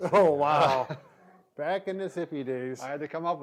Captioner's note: laughing